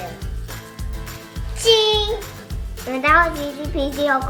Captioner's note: speaking foreign language